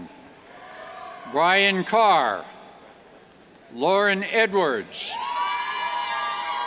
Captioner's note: cheers